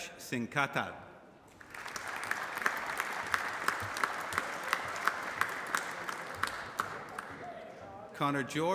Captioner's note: applause